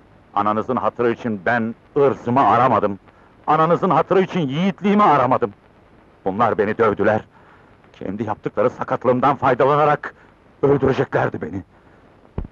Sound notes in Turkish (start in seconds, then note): none